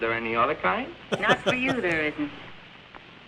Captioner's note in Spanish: risas